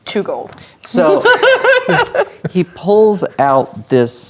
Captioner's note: laughing